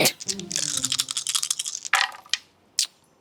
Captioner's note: dice rattle and tap table